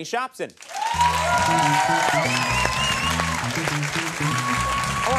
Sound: audience cheering

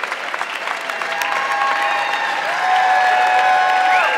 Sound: audience clapping

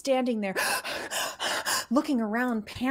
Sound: breathes heavily

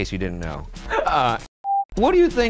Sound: screen beeps

